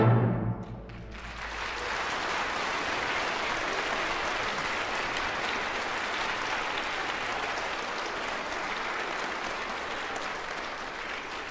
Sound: loud applause

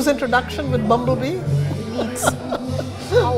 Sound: laughs

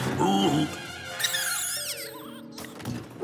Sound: squeaks

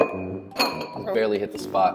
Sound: bowls clinking

